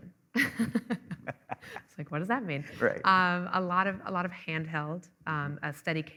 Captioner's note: laughing